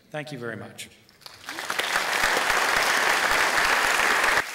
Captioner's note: applause